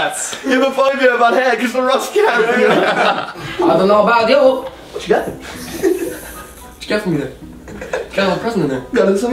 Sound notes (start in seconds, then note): 2.1 laughs